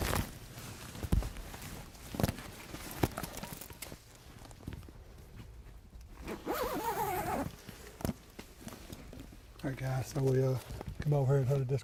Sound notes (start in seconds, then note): 0.0 equipment rustling; 6.2 zipper buzzing